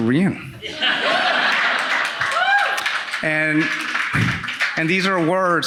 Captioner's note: audience laughing and clapping